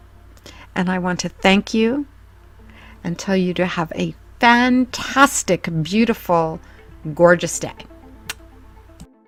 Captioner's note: kiss